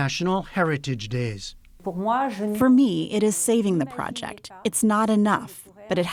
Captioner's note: through translator